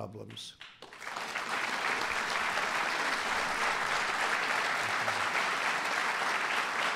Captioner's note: applause